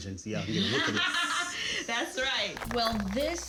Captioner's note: laughs; audience applauds